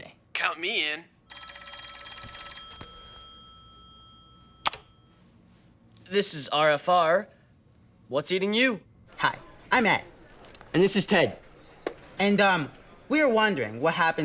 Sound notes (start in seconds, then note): 1.2 phone rings; 4.2 clicks